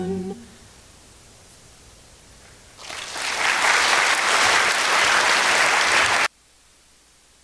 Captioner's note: applause